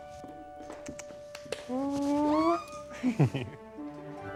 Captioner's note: squeals